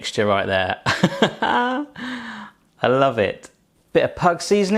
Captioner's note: laughs